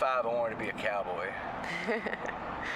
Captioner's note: laughter